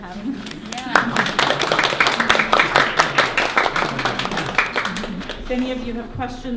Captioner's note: applauses